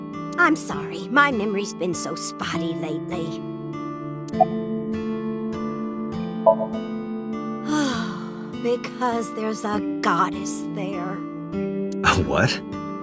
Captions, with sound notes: I'm sorry, my memory's been so spotty lately... (sigh) Because there's a "goddess" there. A what?